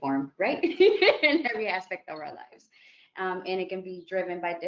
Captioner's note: laughs